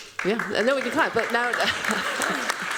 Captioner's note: chuckles; applause